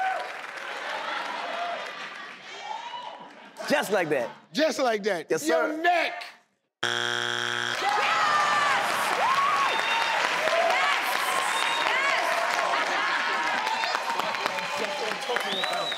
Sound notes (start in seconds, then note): 6.8 buzzer beeps; 7.6 cheers